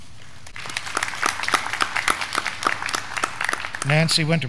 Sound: graduands clapping

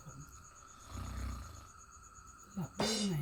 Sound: snores

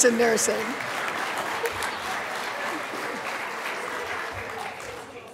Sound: applause

